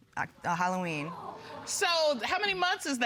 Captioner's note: audience exclaim